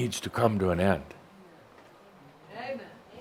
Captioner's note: someone shouts “Amen!”